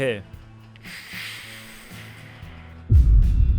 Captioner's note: inhale